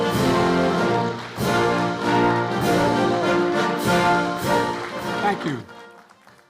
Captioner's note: applause